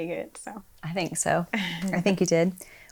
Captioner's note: laughs